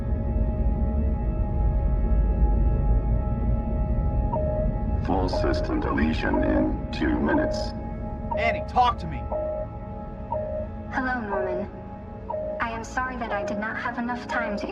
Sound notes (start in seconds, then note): 4.3 alarm beeps